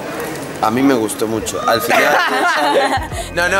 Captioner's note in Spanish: risas